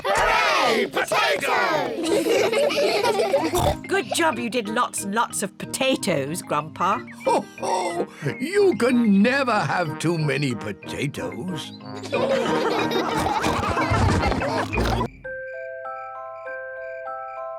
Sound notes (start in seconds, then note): 1.5 kids laugh; 3.4 snorts; 12.0 all laughing; 15.8 crickets sing